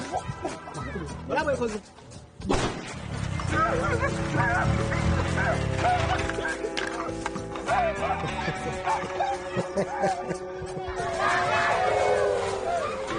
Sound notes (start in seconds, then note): 3.4 actor yelping; 8.2 laughing